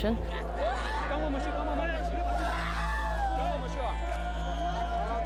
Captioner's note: shouts in foreign language